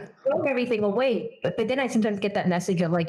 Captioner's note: laugh